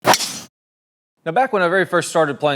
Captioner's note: ball whooshing